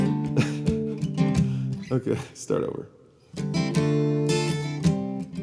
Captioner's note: chuckles